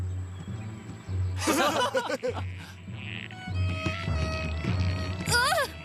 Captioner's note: laughing